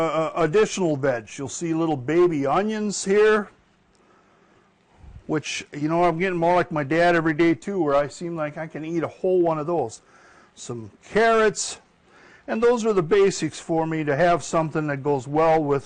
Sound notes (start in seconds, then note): none